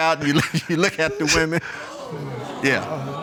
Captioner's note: chuckles